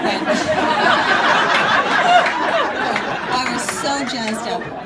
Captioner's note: audience laughing